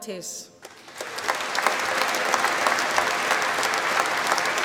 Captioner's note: applause